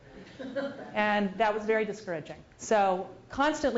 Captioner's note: laugh